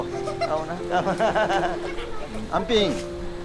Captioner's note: everyone laughing